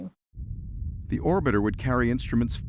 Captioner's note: rumble of spacecraft flying through space